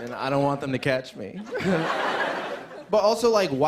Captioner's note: laughter